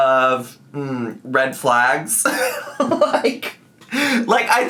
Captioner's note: laughs